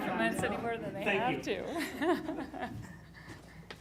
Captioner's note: laughs